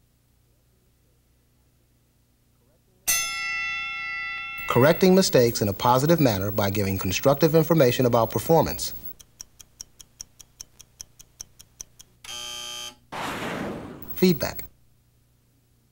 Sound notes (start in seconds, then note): 3.0 bell rings; 12.2 buzzer